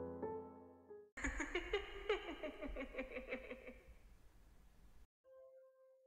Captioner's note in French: Rire